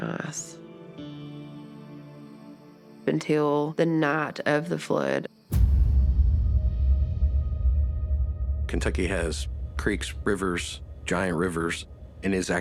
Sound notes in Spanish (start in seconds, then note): 2.2 canto de grillos; 5.5 música tensa